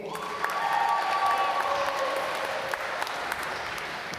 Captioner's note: applause